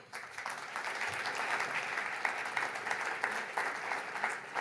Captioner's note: audience applauds